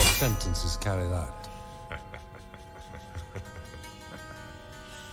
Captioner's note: Harry laughing